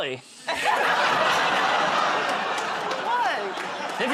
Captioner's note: laughter